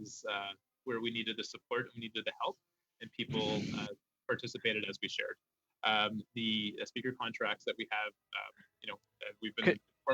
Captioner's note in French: voix de l'interprète